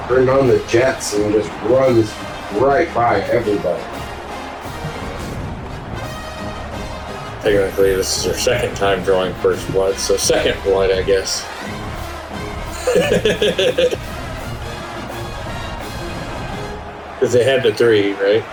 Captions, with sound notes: Turned on the jets and this runs right by everybody. [Crowd Noises] Technically this is your second time drawing first blood. So second blood I guess. [Crowd Noises] [LAUGH] Cuz they had the three right?